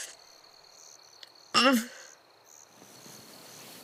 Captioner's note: wincing in pain